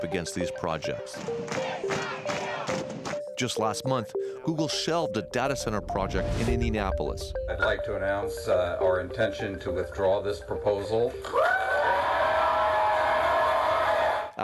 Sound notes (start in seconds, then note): 3.6 chanting